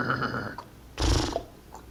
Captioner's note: horse whinnying; horse snorts; hooves clopping